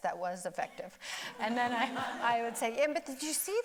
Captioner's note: audience laughing